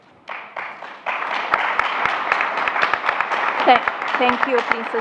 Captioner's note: applause